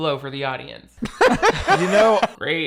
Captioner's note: Shane laughs